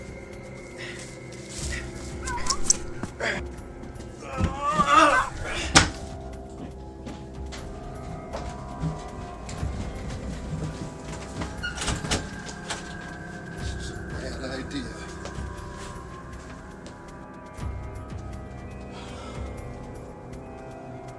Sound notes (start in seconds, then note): 0.2 bark; 4.3 woof!; 4.3 thud; 8.5 creaking door; 8.5 running feet; 17.0 sigh